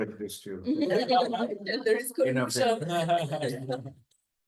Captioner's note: laughter